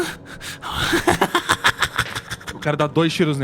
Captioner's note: laughs